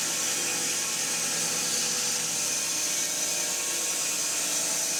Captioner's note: mill whirring